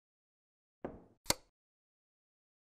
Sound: light switch

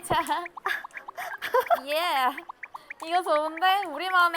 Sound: flapping

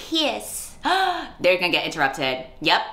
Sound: gasp

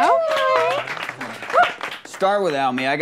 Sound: clapping

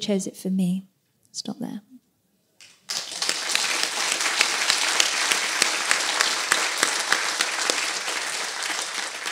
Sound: applause

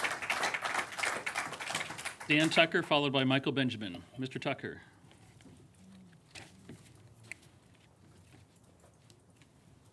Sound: applause

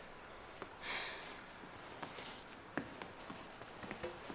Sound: sighs

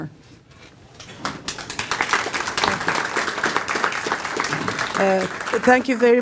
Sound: applause

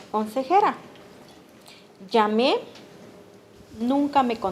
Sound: speaking Spanish

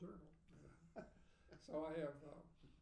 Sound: laughing

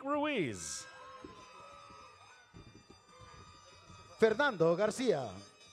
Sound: audience cheers

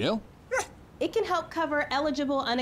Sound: woof

